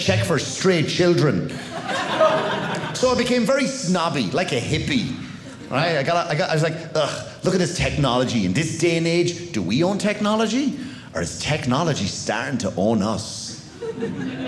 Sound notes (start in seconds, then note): 1.5 audience laughing